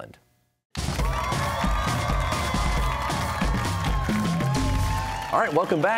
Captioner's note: cheers and applause